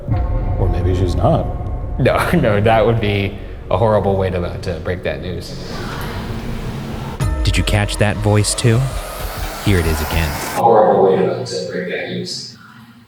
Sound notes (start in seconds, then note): 0.3 tense music; 6.2 ghostly whispering; 12.9 ghostly whispering